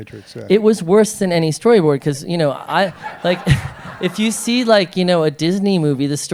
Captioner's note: laughter